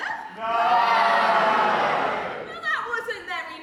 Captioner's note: audience all say 'no' or boo